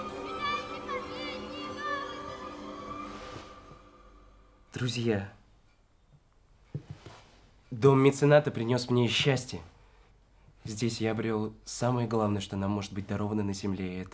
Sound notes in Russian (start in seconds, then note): 2.6 звук распахивающихся штор